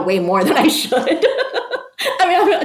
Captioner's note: person laughing